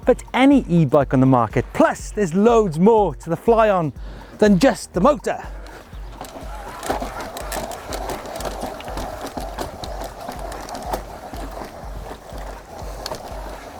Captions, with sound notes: but to any e-bike on the market. Plus there's loads more to the Flyon than just the motor. (bike motor creaking)